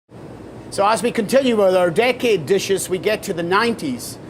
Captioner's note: with Scottish accent